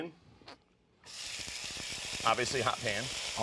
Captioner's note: sizzling